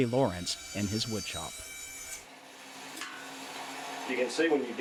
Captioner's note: saw screeching